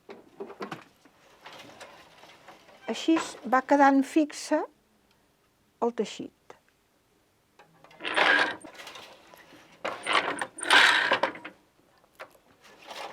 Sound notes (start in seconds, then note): 8.0 noise of shuttle moving